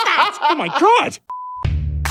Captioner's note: laughing